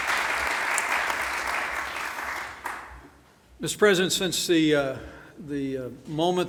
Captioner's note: applause